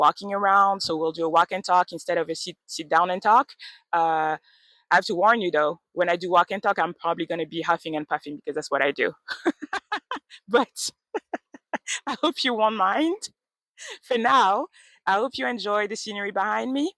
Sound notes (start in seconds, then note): 9.3 laughs